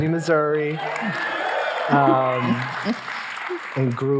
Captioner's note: audience cheering